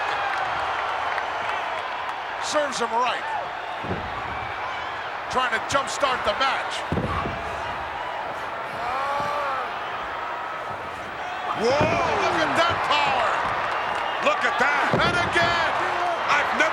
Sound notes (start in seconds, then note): 0.2 crowd cheering; 8.7 wrestler vocalizing